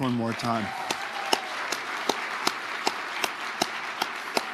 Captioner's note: audience applauding